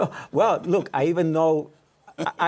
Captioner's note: laughter; laughs